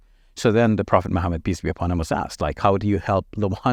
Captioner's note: speaking in Arabic language